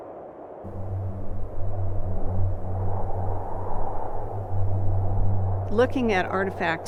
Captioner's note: wind blowing